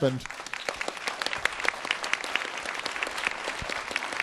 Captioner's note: applause